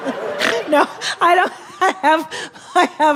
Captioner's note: laughing; snorting